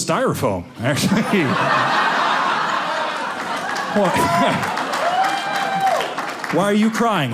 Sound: audience laughing

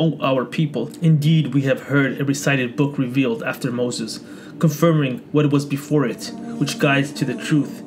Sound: recited

